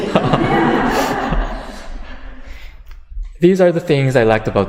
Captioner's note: audience laughter